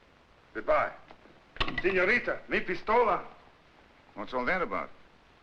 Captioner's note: Taro speaks Spanish